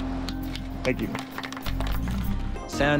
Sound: audience applauds

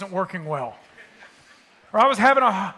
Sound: attendees laughing

